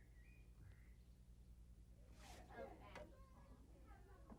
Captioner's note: none